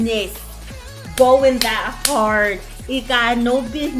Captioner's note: clap